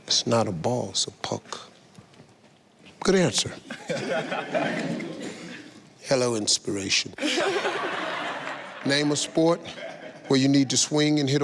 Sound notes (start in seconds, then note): 3.7 contestants laugh; 7.2 audience laughs